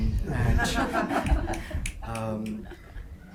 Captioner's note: group laughs